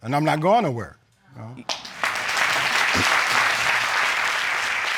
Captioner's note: audience clapping